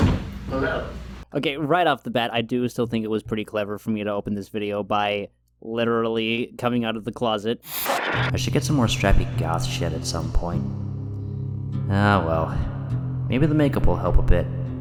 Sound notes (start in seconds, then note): 7.6 static